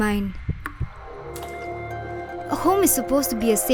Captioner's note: water splashes